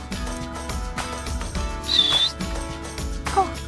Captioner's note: whistle